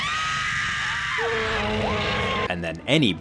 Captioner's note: Tammy screams; dinosaur bellows; Byron screams